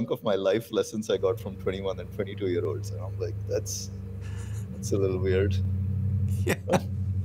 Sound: laughter

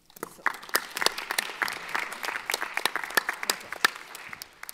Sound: audience applauding

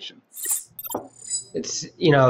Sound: electronic chimes

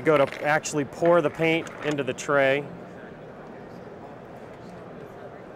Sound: people chatting

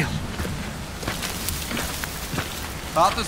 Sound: footsteps approaching

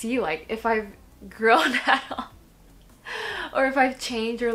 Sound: laughs

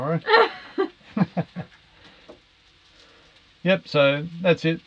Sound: laughs

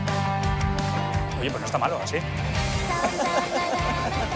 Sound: laughs

